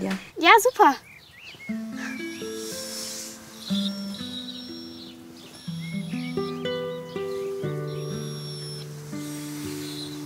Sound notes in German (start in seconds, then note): 2.2 Ruhige Musik; 5.4 Winseln